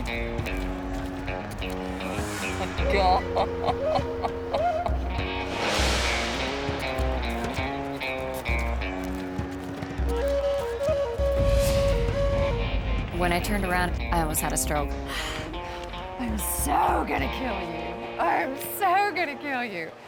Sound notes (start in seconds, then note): 5.2 laughing